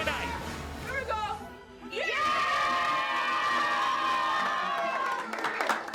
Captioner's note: cheering